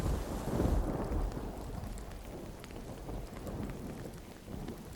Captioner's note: rain pattering